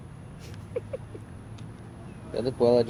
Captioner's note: laughter